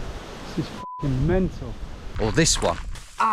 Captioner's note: beep